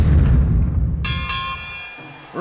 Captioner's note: dinging